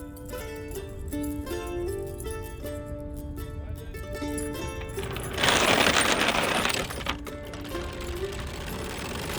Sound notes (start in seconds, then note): 5.7 chain rattling